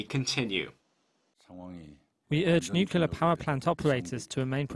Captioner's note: Korean